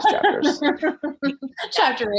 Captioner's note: Jessie laughing